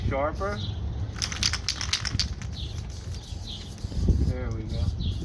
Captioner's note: spray whistling